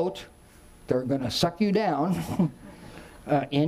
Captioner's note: chuckles